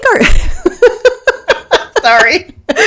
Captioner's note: laughing